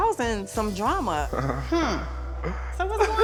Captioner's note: chuckles